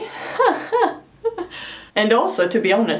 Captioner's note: laughing awkwardly